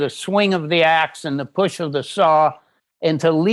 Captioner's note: none